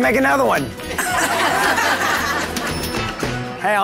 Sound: group laughing

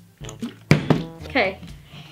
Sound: bottle landing

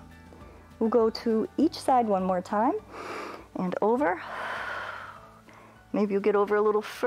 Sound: exhales

